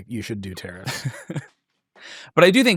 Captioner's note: laughs